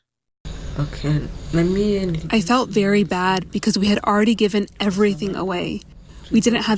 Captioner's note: through translator